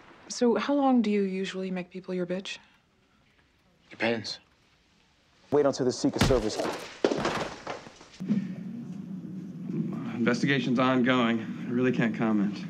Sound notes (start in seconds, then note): 6.2 thud